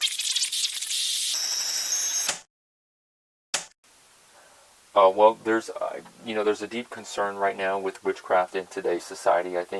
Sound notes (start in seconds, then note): 1.4 tape recorder stops; 1.4 tape recorder rewinding